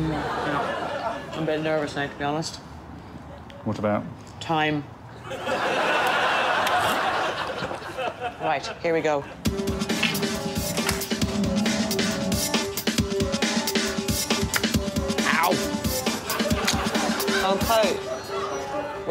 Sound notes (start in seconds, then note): 5.2 audience laughs